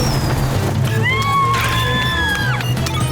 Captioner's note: screaming